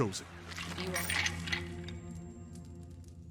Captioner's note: ominous, soft orchestral music; bones rattle; ominous, soft orchestral music